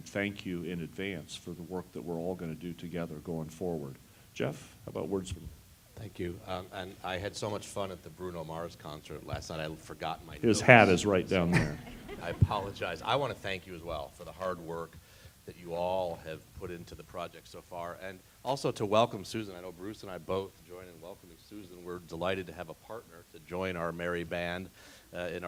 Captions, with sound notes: thank you in advance for the work that we're all gonna do together going forward. Jeff, how about words from? >> Thank you, and I had so much fun at the Bruno Mars concert last night, I forgot my- >> His hat is right down there. >> [LAUGH] >> I apologize. I want to thank you as well for the hard work that you all have put into the project so far and also to welcome Susan. Bruce and I both join in welcoming Susan. We're delighted to have a partner to join our merry band and